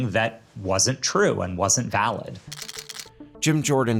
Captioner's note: camera shutter clicking